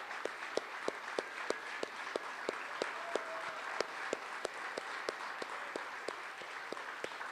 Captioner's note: applause continues